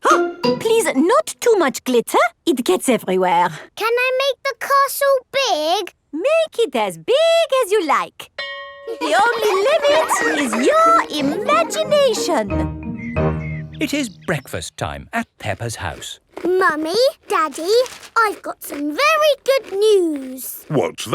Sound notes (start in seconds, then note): 8.4 school bell rings; 8.8 children laughing